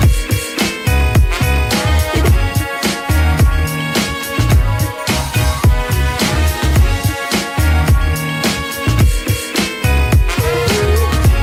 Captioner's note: Lacht